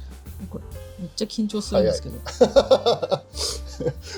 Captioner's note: laughs